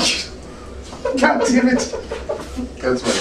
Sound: laughing; laughs

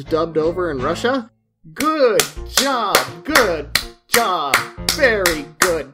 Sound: slowly clapping

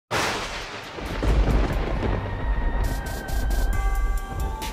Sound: thunder and eerie music

